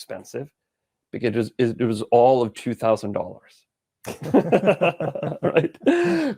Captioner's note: laughs